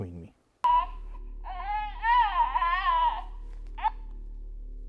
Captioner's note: baby crying